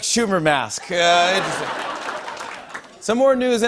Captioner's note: laughter